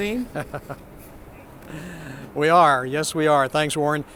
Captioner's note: laughs